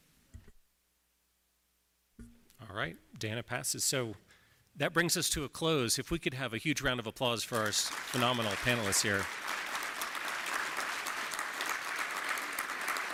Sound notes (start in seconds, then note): 9.6 applause